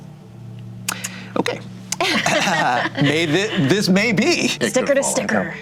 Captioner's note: group laughter